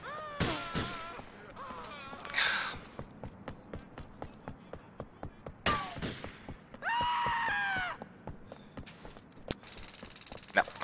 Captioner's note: gunfire